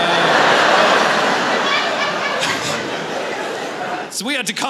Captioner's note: laughter